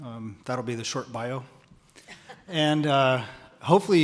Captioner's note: chuckles